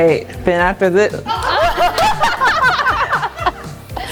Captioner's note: all laughing